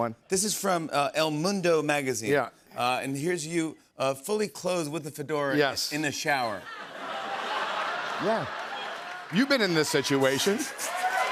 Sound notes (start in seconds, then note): 6.6 laughter; 10.3 cheers and applause